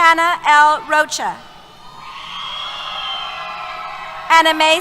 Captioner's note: cheers